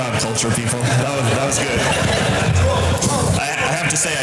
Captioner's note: audience laughter